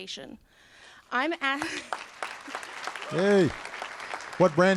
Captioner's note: applause